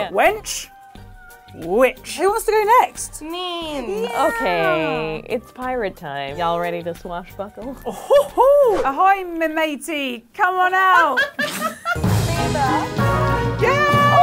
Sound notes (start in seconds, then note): 7.8 laughs